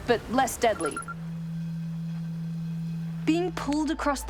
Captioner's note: low tone sounds